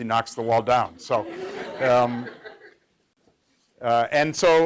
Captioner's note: laughter